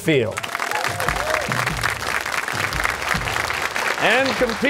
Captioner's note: cheers and applause